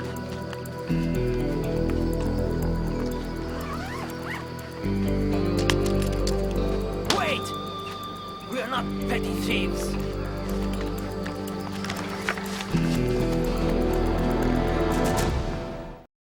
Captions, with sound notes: (bag zipping) Wait, we are not petty thieves.